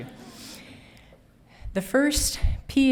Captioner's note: audience laughing